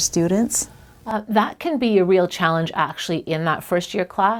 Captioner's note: voiceover